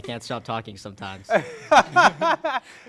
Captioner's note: laughter